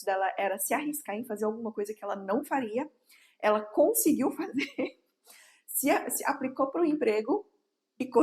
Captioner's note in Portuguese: risadas